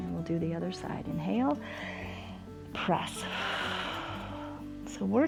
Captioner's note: exhales; inhales